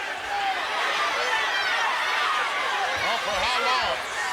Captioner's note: crowd shouting